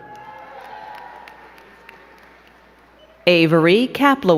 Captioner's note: crowd cheering and clapping